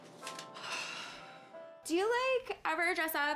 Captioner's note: Ava exhales